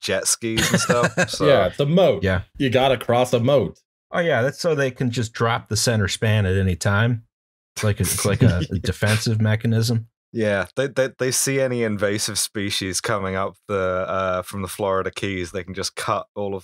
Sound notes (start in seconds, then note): 0.5 laughter; 8.0 laughter